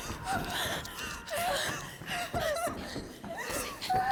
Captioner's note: panting, screaming